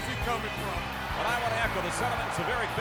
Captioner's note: crowd cheering